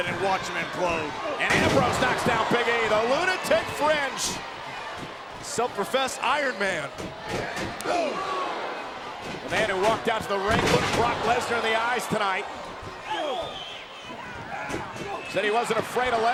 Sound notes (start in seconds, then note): 1.5 body thuds; 6.7 feet thud; 7.9 wrestler grunt; 10.4 bodies thud; 10.7 wrestlers grunt